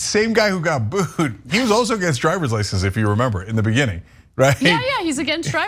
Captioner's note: laugh; laugh